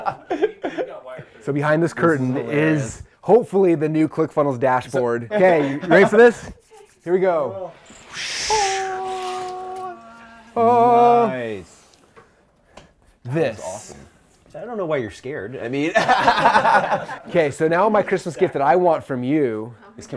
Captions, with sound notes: So behind this curtain is, hopefully the new ClickFunnels dashboard. Okay, you ready for this? Here we go. (sounds of awe) - Nice That looks awesome. I don't know why you're scared, I mean (laughing) - Okay, so now my Christmas gift that I want from you,